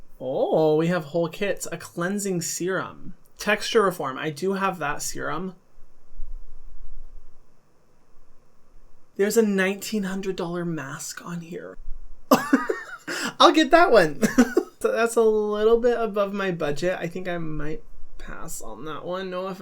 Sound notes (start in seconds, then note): 12.3 laughs